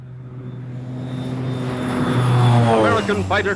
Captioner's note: aircraft whirring